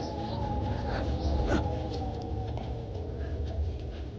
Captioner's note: both panting